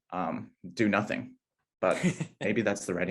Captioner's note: laughing